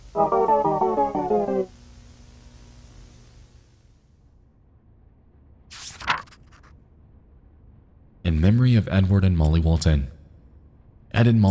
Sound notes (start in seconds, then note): 0.1 triumphant jingle; 5.7 paper flicks